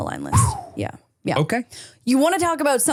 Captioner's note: exhales